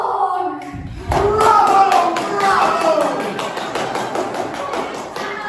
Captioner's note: clapping